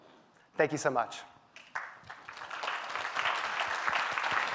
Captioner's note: applause